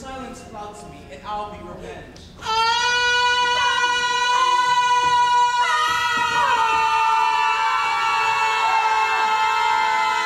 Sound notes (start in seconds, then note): 2.7 Bianca screams; 4.1 group screaming